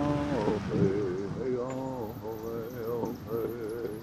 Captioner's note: car honking